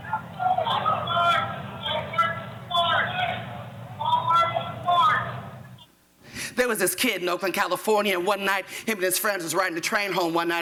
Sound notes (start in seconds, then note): 1.7 yelling